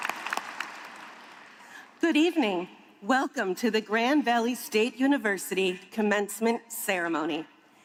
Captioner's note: applause